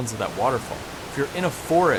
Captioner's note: water rippling